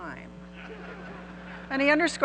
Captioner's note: audience laughing